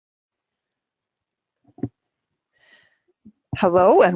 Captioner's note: silence